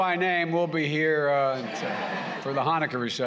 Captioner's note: laughter